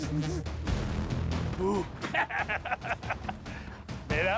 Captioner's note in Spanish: carcajada